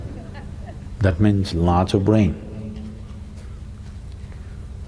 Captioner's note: few laugh; laughs